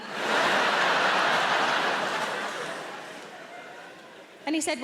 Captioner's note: audience laughing